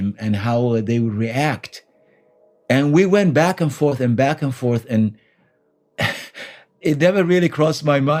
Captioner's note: exhales